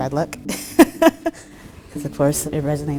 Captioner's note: laughs